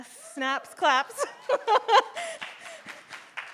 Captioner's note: chuckles; audience applauding